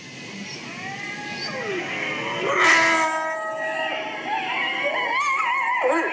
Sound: howling

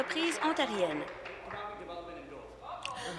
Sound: applause

